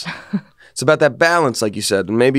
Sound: laughs

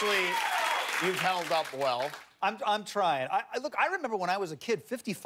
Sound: cheers and applause

